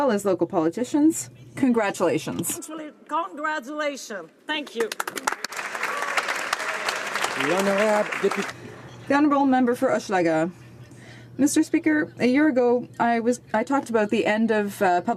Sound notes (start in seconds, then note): 9.2 some Applause